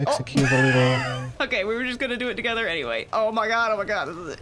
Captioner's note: laughs